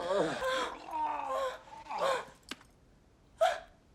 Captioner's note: gagging; Kimberly Panting